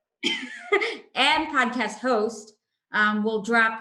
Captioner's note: chuckles